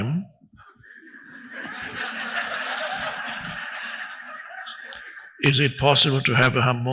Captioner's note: audience laughing loudly